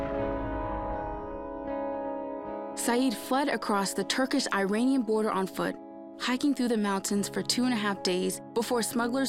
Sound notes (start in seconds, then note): 3.3 in English